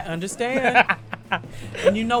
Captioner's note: laughs